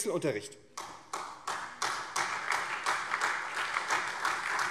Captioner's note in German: Beifall SPD